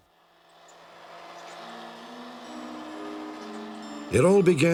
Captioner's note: vacuum cleaner on